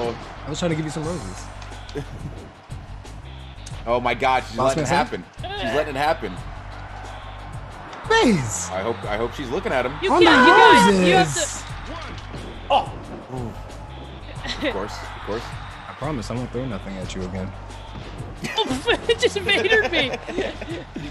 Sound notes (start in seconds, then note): 2.9 laugh; 10.2 laugh